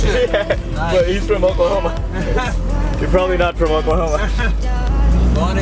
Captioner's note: laughs